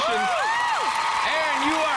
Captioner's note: cheers and applause